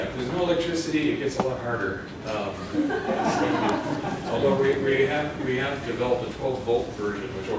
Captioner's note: laughter